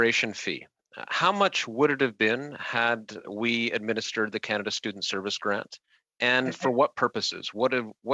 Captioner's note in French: voix de l'interprète